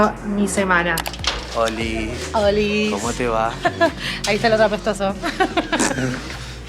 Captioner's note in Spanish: risas